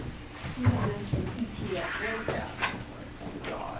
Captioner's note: voiceover